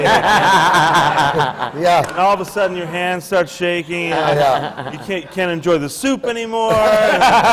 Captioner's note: laughter